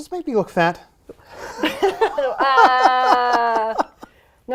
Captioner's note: laughter